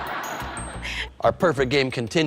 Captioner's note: laughter